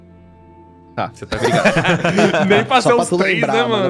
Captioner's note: laughs